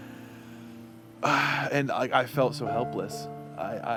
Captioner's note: sighs